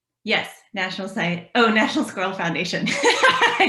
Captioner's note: laughter